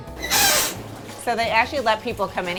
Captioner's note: rubber duck squeaking